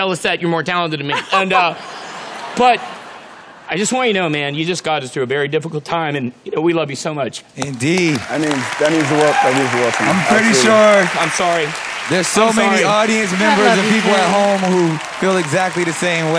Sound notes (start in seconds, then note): 1.1 laughter